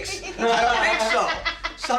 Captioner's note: laughs